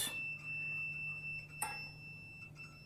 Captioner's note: beeping starts